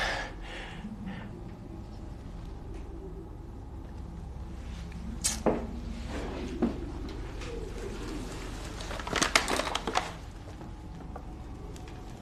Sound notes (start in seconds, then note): 0.2 panting heavily; 5.2 clicks tongue; 8.3 paper bag crinkles